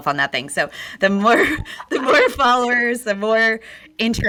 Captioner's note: laughs